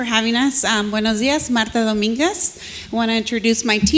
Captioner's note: speaks foreign language